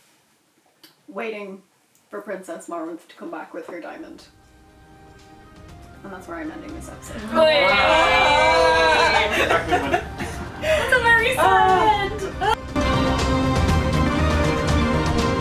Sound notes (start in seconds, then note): 7.2 cheering/Wailing